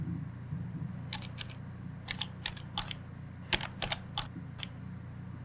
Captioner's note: phone keys clack